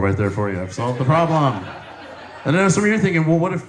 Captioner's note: audience laughs